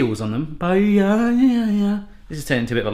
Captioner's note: humming